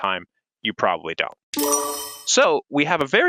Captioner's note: chimes